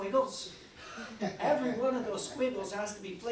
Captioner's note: audience chuckling